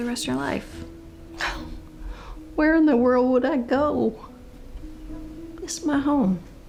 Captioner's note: scoffs